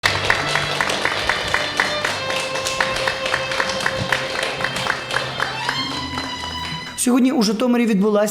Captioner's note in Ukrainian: звук аплодисментів та скрипки